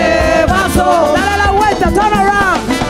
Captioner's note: speaking in Spanish